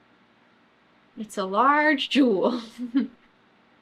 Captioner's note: laughs